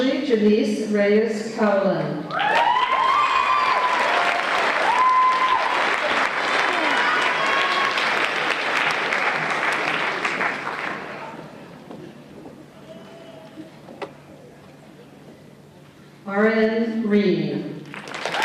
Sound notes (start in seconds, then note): 2.3 applause and Cheers